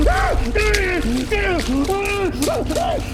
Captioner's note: screaming